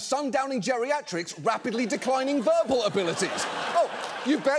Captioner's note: audience laughs